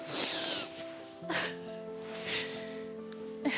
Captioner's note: crying